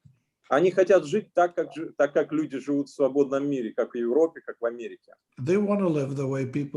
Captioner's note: speaking Russian language